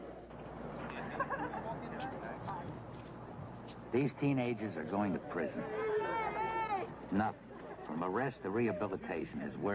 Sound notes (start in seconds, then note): 0.8 laughs, indistinct chatter